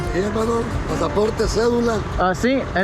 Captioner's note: speaking Spanish